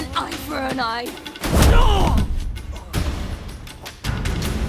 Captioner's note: blow lands; groan